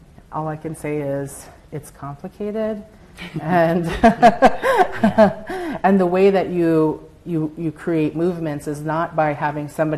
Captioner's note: laughter